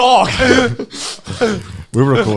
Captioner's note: laughing